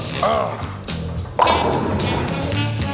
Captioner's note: grunts